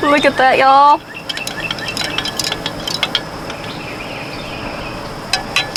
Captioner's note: also spoon clinking while stirring 🥄